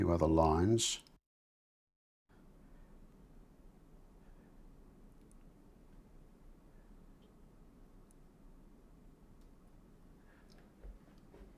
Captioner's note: silence